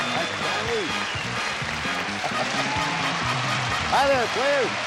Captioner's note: laughs